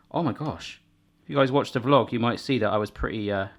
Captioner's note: none